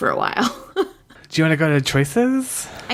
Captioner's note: laughs